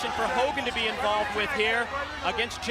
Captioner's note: crowd cheering